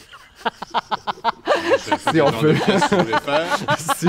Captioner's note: laughs